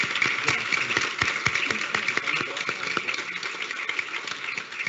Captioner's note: audience applauding; Mark speaking faintly